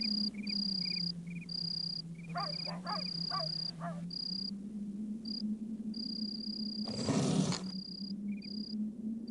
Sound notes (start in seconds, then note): 2.3 dog barking